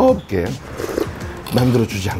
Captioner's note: slurp